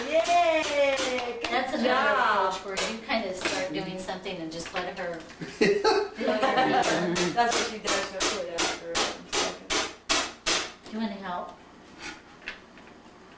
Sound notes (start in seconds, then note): 5.4 laughing